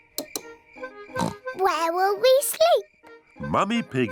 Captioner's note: oinks